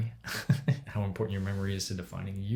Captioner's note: laughs